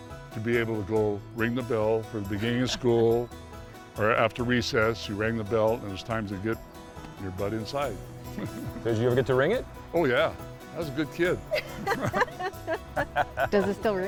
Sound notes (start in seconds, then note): 11.4 group laughs